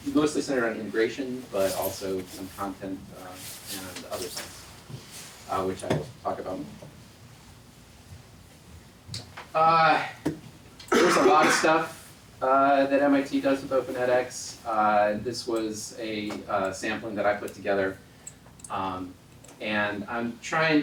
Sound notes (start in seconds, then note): 10.9 cough